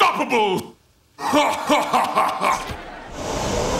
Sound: laughing

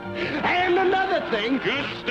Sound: audience laughs

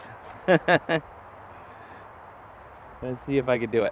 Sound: laughs

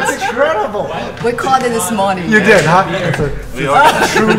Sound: laughs

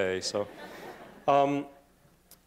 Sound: laughter

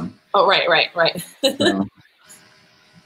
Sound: laughs

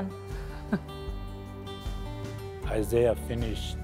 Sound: laughs

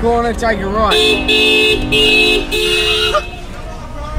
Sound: horn honks

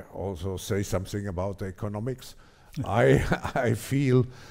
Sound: laughs

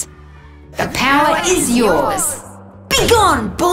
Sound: multiple Voices

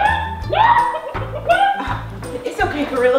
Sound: chicken sounds

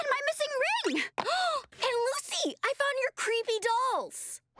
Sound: gasping

